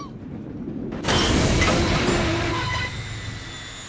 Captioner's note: crash and screaming brakes